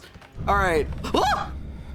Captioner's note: stinger boom; yelps